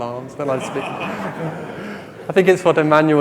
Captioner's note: laughing